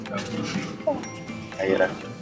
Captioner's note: yawning